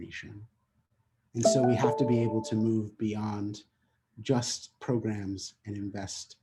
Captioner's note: notification sound